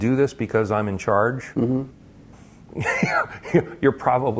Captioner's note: laugh